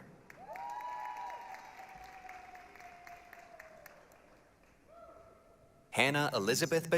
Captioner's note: applause, cheering